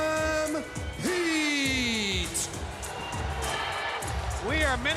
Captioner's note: crowd chatter